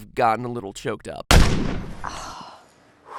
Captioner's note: gunshot